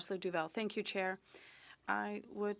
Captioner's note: speaking in French